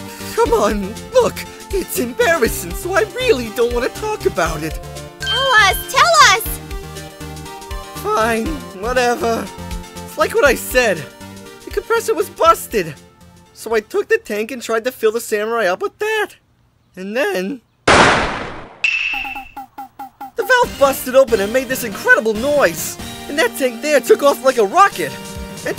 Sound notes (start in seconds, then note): 17.8 blaaaam!